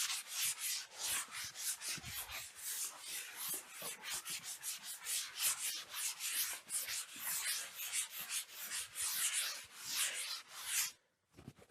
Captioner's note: sanding